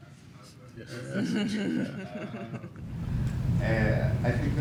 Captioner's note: laughter